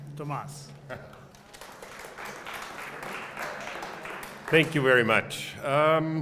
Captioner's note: applause